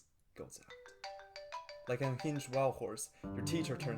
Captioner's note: phone chime